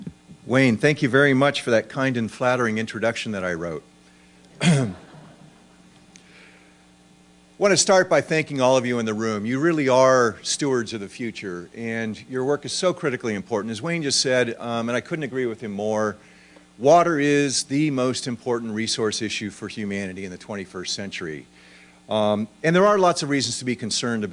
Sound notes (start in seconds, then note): 4.7 laughter